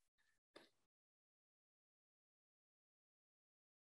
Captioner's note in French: silence